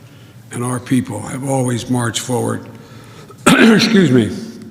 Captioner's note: coughs